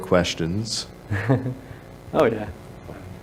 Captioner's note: chuckles